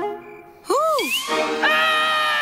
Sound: screaming; laughing

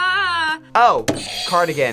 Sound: buzzer rings

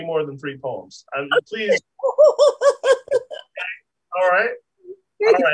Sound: laughs

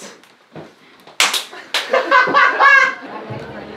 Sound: clap

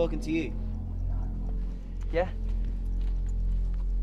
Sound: whispered

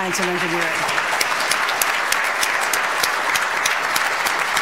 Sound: audience applauds

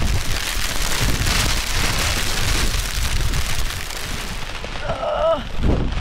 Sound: rain

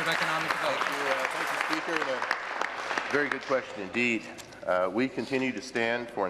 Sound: applause

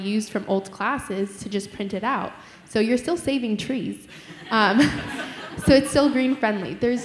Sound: laughter

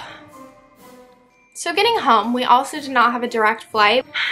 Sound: sigh

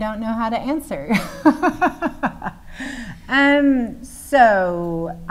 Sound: laughing

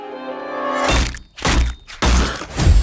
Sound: thwacking

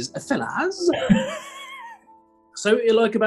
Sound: bad scottish accent; sniggering

